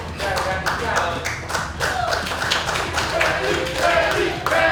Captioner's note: cheering & Clapping